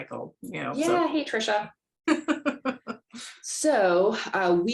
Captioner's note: laughter